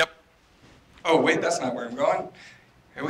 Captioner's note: off microphone